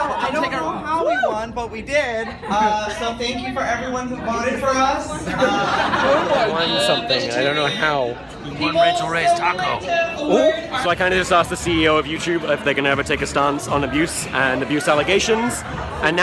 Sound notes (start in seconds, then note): 5.2 audience laughs